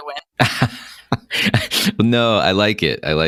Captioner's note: laughter